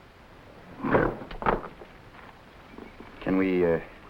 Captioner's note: gorilla grunting